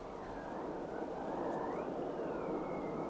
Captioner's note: wind gusting